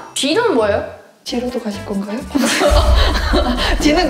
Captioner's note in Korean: 웃음